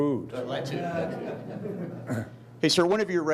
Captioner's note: laughing